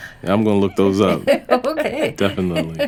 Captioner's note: laughter